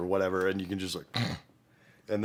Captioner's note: snores